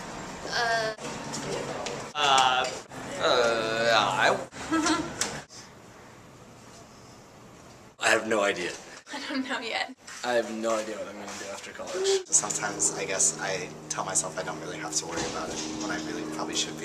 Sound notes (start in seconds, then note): 8.6 laugh